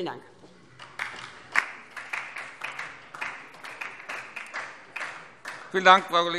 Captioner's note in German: Beifall DIE LINKE